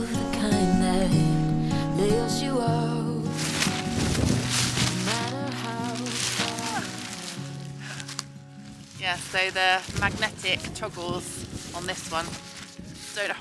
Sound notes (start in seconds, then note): 3.8 door flapping around